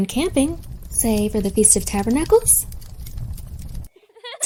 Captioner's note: fire crackles